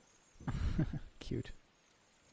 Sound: chuckling

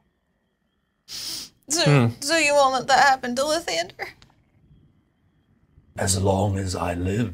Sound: sniffles

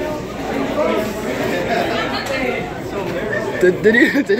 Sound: laughs

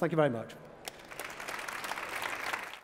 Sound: applause

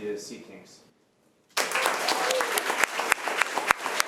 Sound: applause

